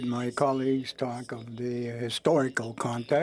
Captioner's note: speaking French